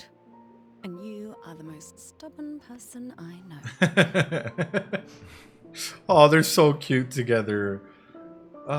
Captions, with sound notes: and you are the most stubborn person I know. (laughs) Oh, they're so cute together.